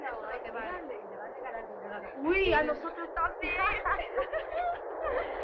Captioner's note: dancers speaking Spanish